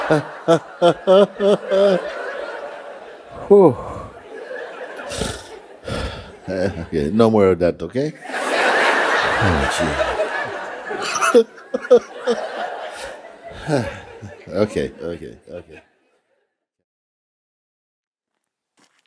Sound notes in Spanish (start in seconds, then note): 0.0 Mooji se pone una mano en el costado y se ríe; 3.1 exhala profundo; 10.6 risas